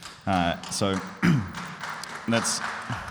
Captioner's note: audience applauds